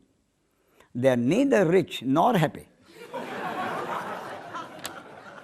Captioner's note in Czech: smích